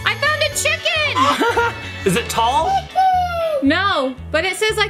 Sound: laughs

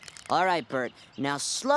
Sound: voiceover

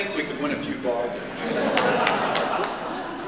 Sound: laughter

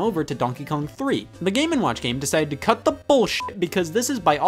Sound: beep

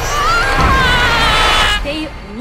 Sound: Andrew screams

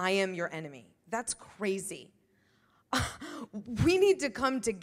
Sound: laughs

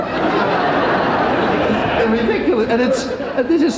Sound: crowd laughing

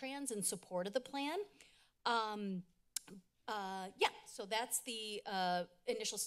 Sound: clicks tongue

